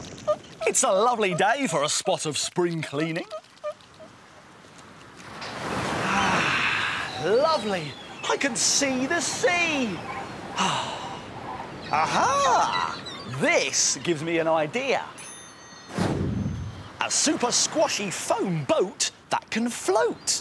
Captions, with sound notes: It's a lovely day for a spot of spring cleaning. - (waves crashing) - Ah! Lovely! I can see the sea! (sighs) Ah-ha! This gives me an idea. A super-squashy foam boat that can float.